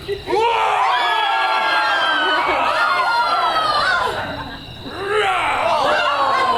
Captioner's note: Thisbe screams; lion roars; lion growls